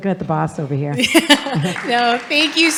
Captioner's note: audience laughing